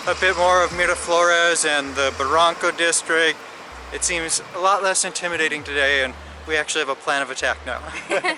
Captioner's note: giggles